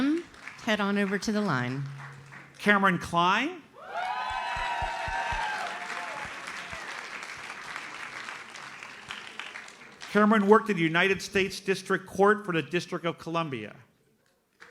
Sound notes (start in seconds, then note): 3.8 audience cheers and applauds